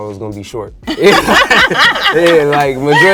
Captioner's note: laughs